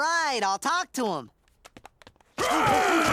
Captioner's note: running footsteps fade away